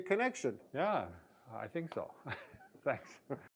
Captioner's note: laughs